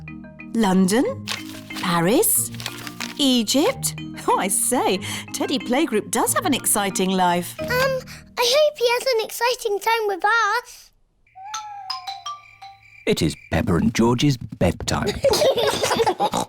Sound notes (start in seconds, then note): 11.3 owls hoot; 15.0 both giggle